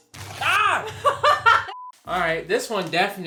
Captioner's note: laughs